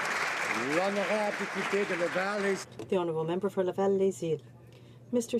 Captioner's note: some Applause